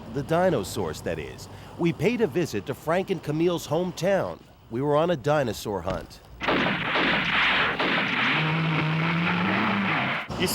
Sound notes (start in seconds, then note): 6.4 gun shots; 8.0 dinosaur roars